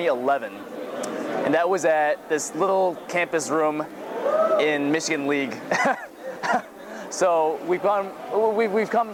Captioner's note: laughs